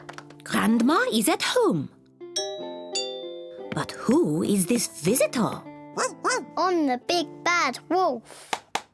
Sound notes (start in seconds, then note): 2.4 doorbell rings; 5.8 barks